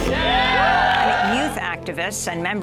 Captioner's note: crowd cheering